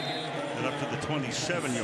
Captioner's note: whistle